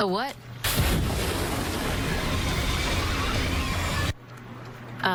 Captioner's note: flames erupt; Demogorgon yells